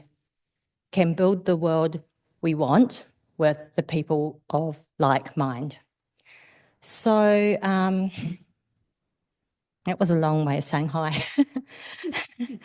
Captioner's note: laughter